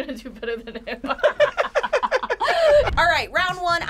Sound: both laughing

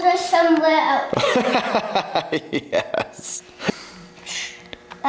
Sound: father laughs

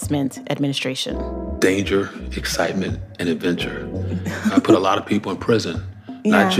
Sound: laughs

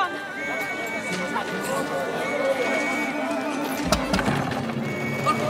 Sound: police whistles blowing

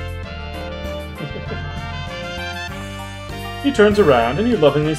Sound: chuckles

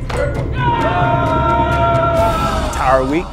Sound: soldiers yelling

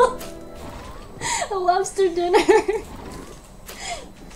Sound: laughing; laughs

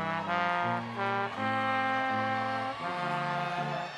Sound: people cheering

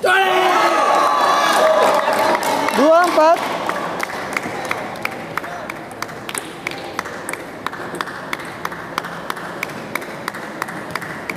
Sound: applause

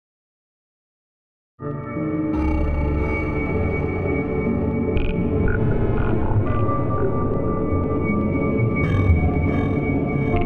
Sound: sound of alien horror

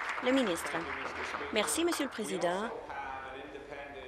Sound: applause

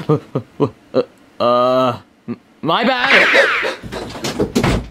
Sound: footsteps whirring; object clanking

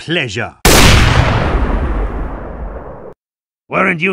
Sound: AWP shot sounds

